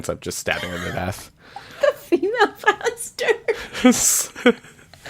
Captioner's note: laughs; laughs